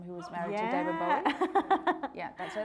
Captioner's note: all laughing